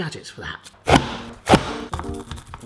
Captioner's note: garlic crunching; plastic banging